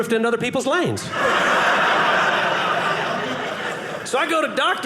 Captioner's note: audience laughing